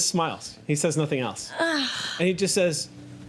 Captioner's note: groans